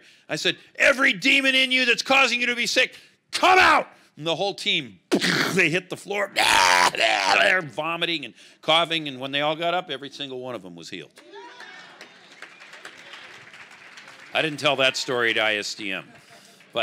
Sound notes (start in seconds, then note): 6.8 retching; 11.2 crowd applauding